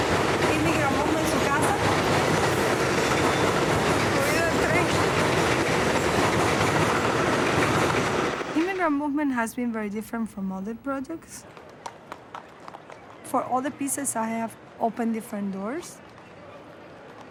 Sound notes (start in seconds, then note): 2.6 train rattles; 12.0 horse hooves clopping